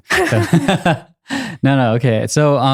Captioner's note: both laughing